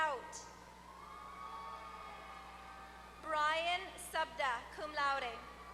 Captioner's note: applause